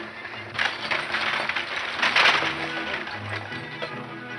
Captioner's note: wagon creaking